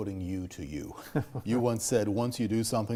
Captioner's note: laughing